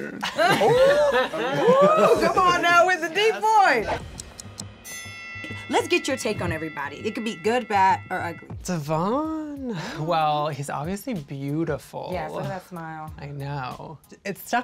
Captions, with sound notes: - I could be like to be a man-man - Oohhh Common now with the deep voice! (timer ticking) (wresting bell) Lets get your take on everybody, it could be good bad, or ugly. - Davon, well he's obviously beautiful - Yes, look at that smile - I know